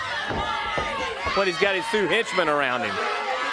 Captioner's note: crowd chatter